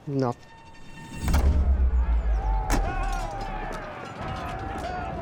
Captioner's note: men shouting